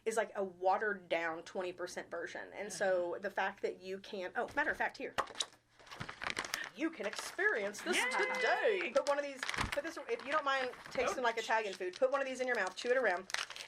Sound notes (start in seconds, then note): 5.3 container lid popping; 5.8 paper rustling